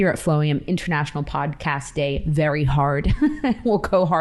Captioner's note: chuckles